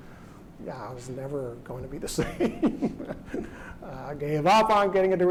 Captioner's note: laughs